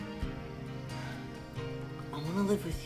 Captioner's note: sighs